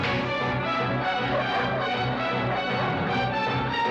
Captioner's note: barking